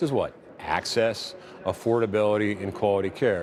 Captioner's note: none